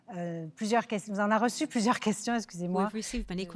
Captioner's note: speaking French